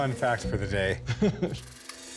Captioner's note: laughs; lively music